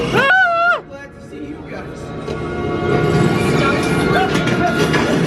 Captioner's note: shrieks; items clattering